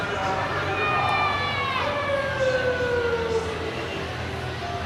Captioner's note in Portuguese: Voz no megafone comercial, gritos de crianças e som ambiente de rua